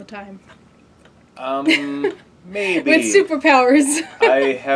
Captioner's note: laugh